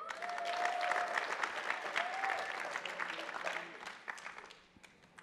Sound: attendees applauding

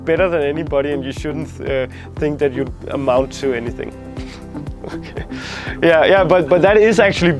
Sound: laughs

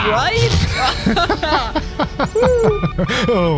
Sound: laughter

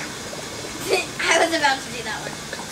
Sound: laughs

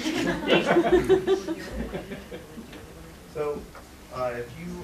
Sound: laughter

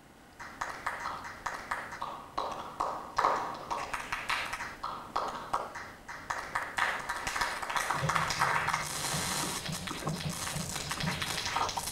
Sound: applause/manipulated sound

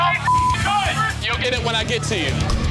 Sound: beep; shouting

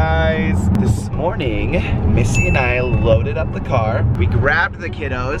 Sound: ding

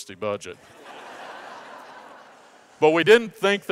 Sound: audience laughs

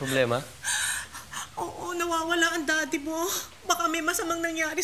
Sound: sobs

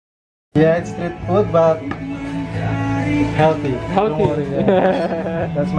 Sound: giggles

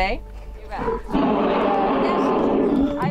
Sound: roar

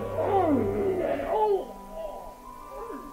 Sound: groans

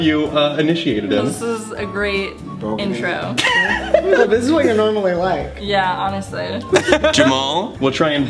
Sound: laughs

